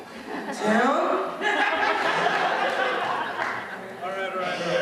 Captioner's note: laughter